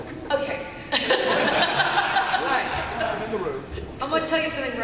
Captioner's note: laughter